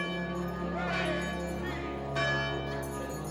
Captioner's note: bell chiming